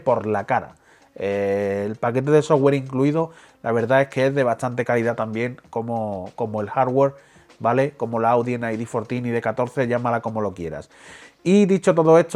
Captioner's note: spanish